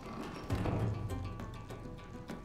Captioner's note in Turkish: Kapı kapanma sesi